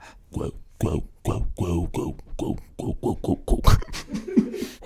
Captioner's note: guttural vocalizations; laughter